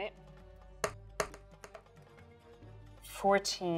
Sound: dice rolling

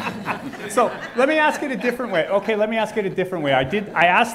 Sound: laughing

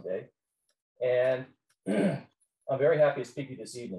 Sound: clears throat

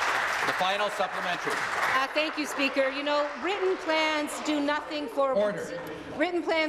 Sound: applause

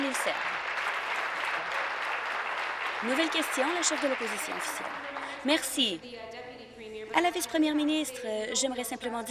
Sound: applause

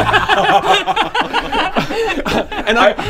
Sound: laughs

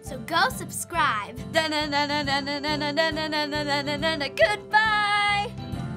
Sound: hums Batman theme; theme music

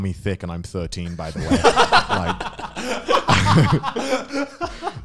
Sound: laughing

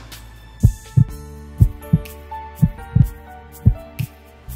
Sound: heartbeat

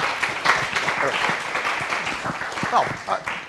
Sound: applause

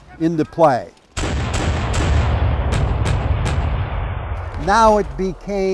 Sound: cannons blasting

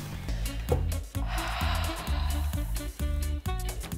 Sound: deep breathing

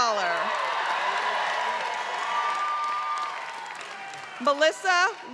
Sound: applause

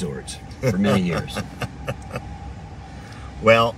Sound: laughs

